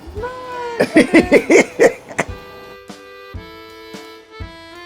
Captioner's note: laughs; lighthearted music